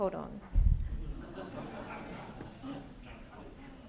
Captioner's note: crowd laughter